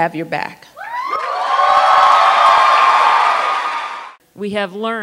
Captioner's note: cheers and applause